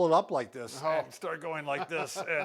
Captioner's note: chuckling